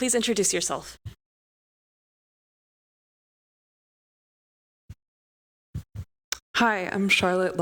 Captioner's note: audio out